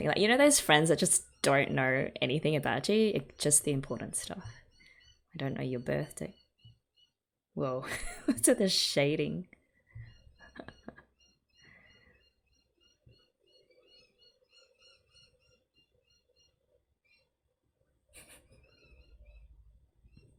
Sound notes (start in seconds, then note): 10.4 laughs